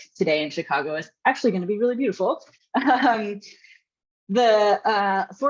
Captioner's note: chuckles